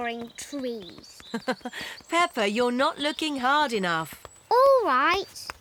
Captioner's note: laughs